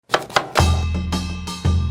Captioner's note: chopping; lively Asian music